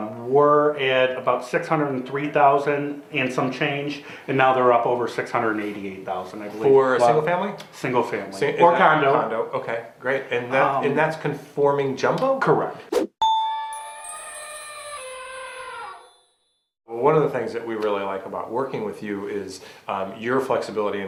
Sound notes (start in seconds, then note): 13.2 bell dings; 13.3 elephant trumpets